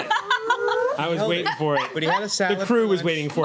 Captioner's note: laughing